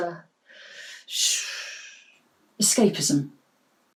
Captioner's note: long exhale